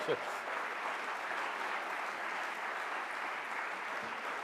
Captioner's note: audience applauds